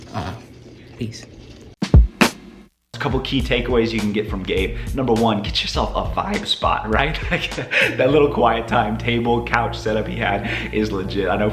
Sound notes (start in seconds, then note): 3.0 drumbeat; 7.0 chuckles